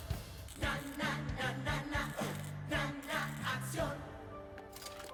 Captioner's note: zaps